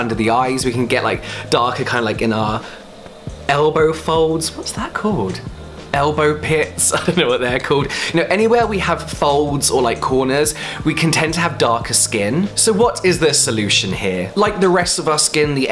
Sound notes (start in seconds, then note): 6.9 laughs